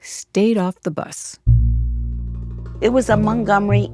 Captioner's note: soundbite of archived recording